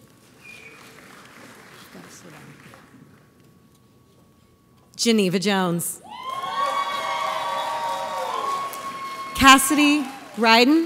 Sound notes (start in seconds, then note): 0.4 audience applauds; 6.1 audience cheers